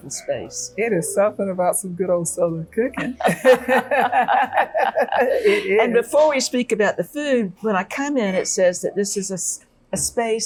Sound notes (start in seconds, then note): 3.0 laughing